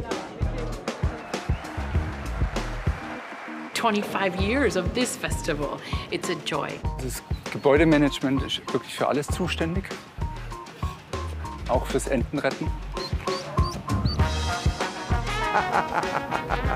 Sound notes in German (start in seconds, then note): 0.7 Jubel